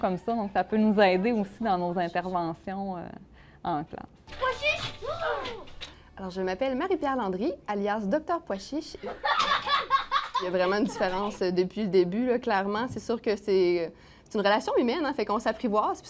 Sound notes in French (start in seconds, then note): 9.0 rires